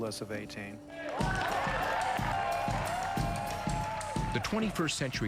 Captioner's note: cheers and applause